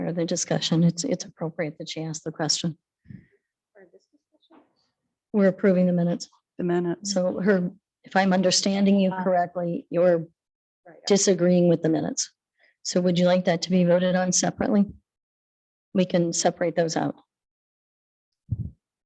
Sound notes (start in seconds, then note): 4.1 faintly speaking